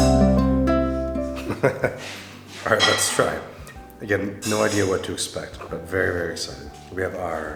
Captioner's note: laughing